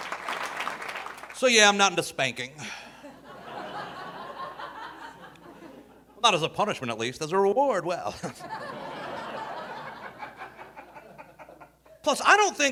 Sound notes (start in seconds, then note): 2.7 audience laughing; 8.1 audience laughing